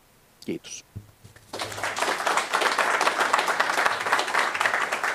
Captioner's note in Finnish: Aplodeja